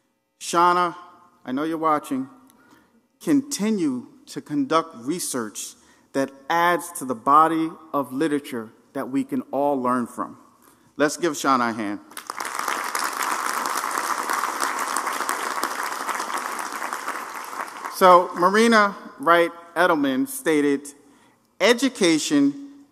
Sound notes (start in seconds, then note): 12.1 applause